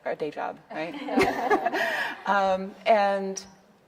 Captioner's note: audience laughing